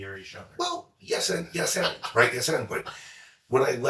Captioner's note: laughs